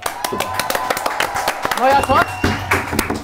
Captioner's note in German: Jubel, Applaus